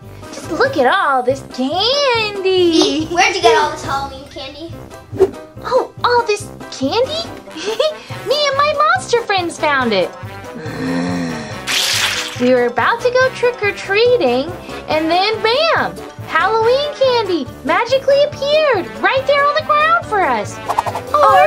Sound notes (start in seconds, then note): 10.5 monster groans